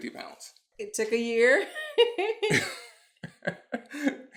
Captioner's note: laughing